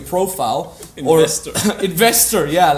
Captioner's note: laughs